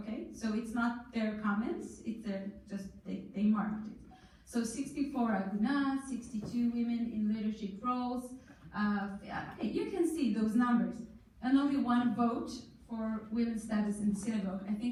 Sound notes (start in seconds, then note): none